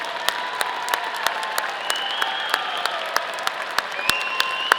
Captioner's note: audience applauding